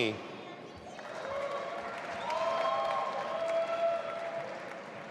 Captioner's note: audience applauding